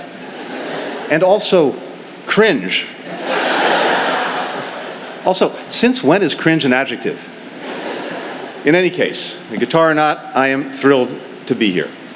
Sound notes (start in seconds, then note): 0.0 laughter and applause; 3.0 laughter